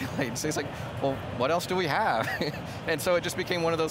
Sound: laughs; laughs

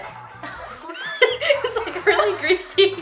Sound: laughing

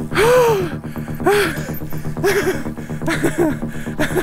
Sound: heavy breathing

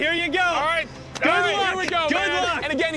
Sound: cheering

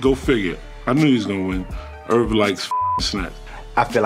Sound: beep

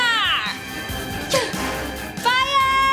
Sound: grunt

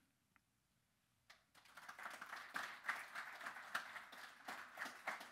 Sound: audience clapping

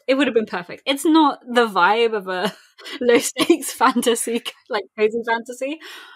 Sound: laughing

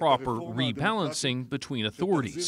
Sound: speaking alternate language

